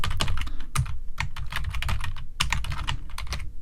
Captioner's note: typing